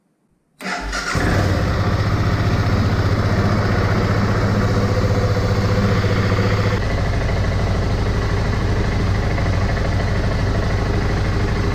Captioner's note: engine running